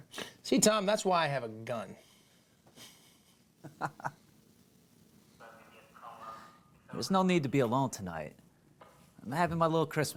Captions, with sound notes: SEE TOM, THAT'S WHY I HAVE A GUN. [LAUGHS] THERE'S NO NEED TO BE ALONE TONIGHT. I'M HAVING MY LITTLE CHRISTMAS PARTY.